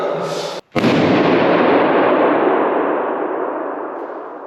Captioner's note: balloon banging